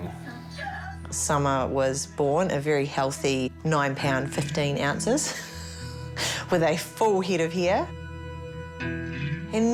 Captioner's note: laughs